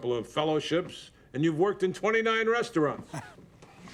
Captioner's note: chuckles